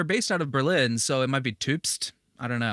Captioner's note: German accent